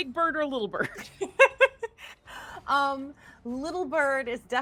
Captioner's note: laughing